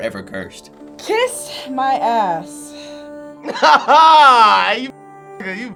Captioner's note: laughs